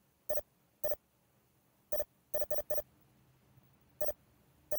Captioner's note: watch beeping